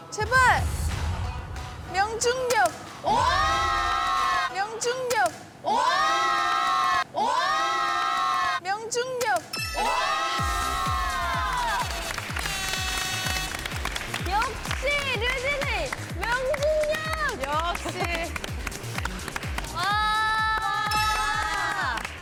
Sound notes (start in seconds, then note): 7.8 clapping; 17.3 haha